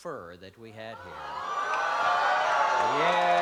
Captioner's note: applause and cheering